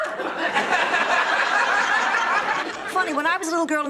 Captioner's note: audience laughing